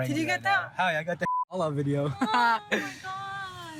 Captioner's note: laughs